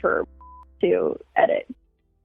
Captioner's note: beep